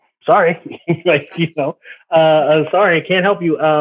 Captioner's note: chuckles